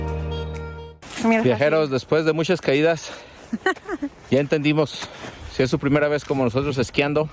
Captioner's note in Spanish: risas